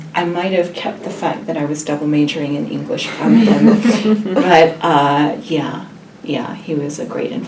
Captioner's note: laugh